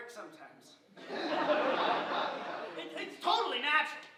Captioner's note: audience chuckling